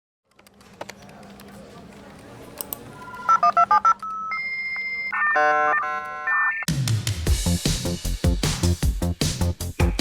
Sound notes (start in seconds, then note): 2.9 dial up beeping; 6.6 lively music